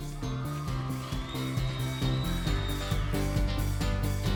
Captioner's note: audience cheering; upbeat music